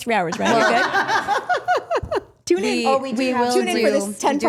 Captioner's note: group laughing